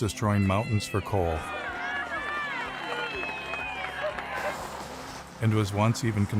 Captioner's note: people shouting and clapping